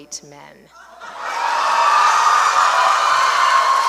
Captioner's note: laughter and cheers